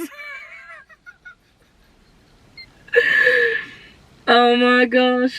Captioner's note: laughing